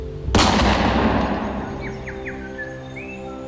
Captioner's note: gun shot